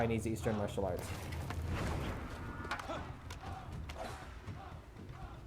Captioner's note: cheering in distance